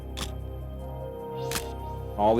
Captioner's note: camera shutter click